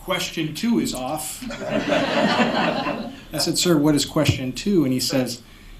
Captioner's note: laughter